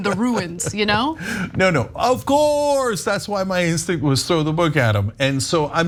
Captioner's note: laugh